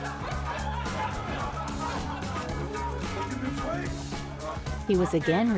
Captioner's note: crowd chattering and laughing